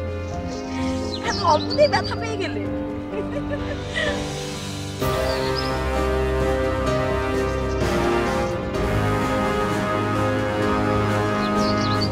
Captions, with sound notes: Got hurt so easily ? [giggles]